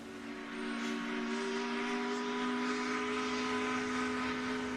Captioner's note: ship's horn